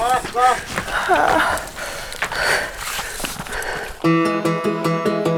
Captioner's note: climber whimpering; upbeat guitar music